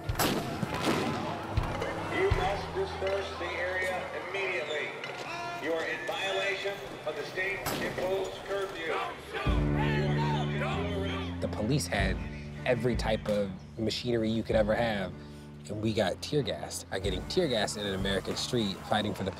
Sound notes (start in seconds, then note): 0.1 tear gas canisters exploding; 2.7 voiceover